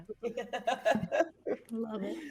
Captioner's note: person laughing